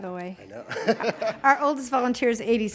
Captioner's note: laughs